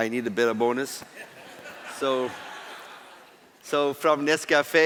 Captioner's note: laughter